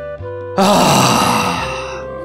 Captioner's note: sigh